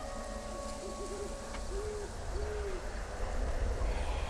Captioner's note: hooting in background